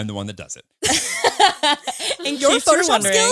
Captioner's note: all laughing